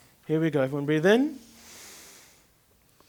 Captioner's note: inhale